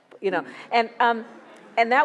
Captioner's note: audience laughs